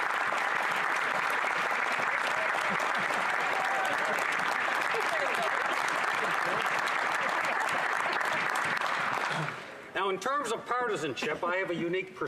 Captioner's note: applause